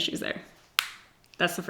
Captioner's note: lid clicks